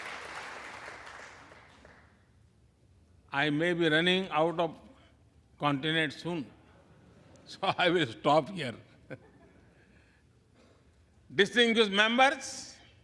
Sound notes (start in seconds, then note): 2.2 applause